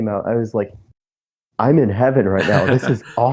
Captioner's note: laughs